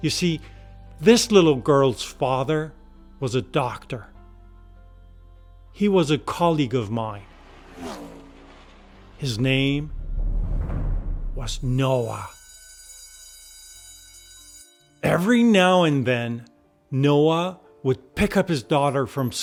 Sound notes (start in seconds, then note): 6.6 engine revving; 10.3 tense drumming music; 11.8 school bell ringing